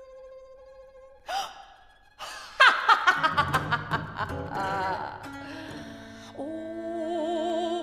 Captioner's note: peal of laughter